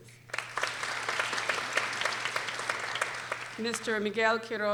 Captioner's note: people applauding